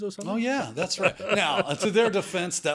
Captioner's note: laughs